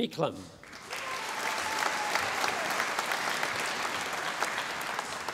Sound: audience applauding

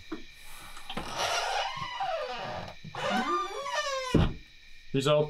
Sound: door squeals

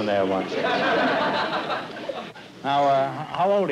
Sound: laughter

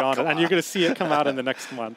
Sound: laughing

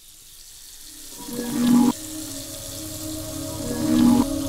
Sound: water running

